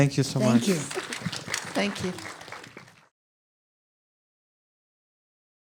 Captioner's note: audience applauds